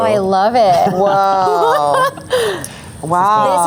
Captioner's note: laughs